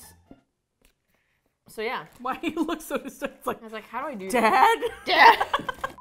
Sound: laughing; both laugh

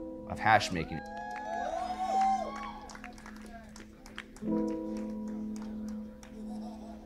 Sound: gentle piano music; crowd applauding; crowd laughs

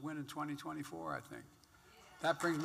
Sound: applause

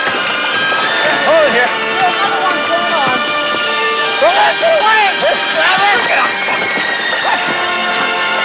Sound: laughing and inaudible shouting

